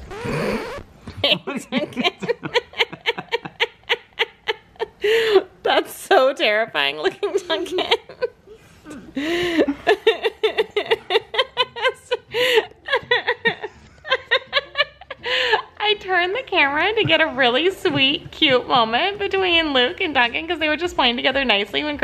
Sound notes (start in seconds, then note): 1.0 laughing; 8.9 laughs